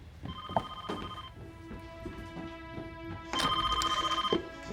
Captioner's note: phone ringing